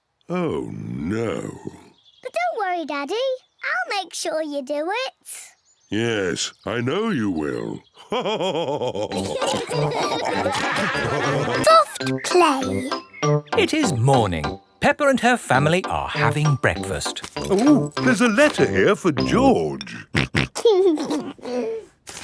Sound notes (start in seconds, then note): 7.9 chuckles; 8.0 all laugh; 19.8 snorting and giggling